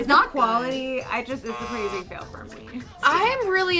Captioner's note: buzzer sounds